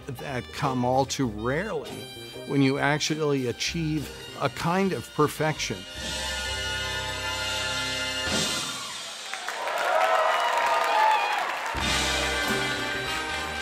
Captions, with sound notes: that come all too rarely. When you accidentally achieve a kind of perfection. (jazz music finale) (cheering)